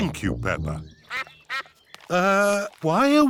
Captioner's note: sucks quacking